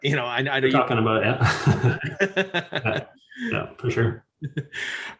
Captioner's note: both laughing